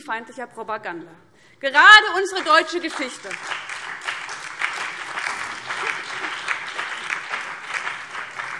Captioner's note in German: Beifall BÜNDNIS 90/DIE GRÜNEN, vereinzelt SPD und DIE LINKE